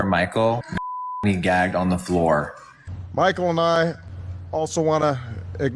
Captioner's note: beep